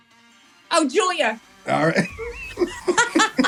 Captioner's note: laugh